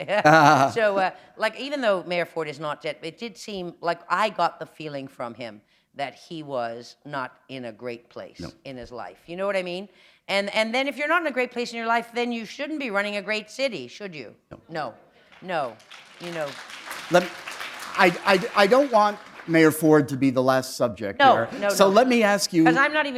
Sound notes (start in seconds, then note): 0.1 chuckle; 17.3 applause